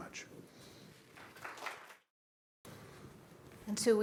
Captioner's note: applause